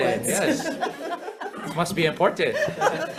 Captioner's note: laughs; members laughs